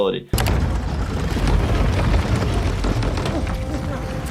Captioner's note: ground rumbling